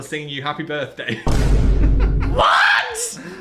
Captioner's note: dramatic music; laughing